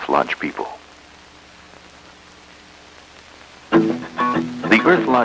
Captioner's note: background static